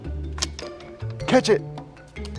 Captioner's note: gentle music; wood plank snapping